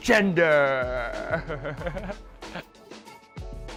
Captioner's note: laughing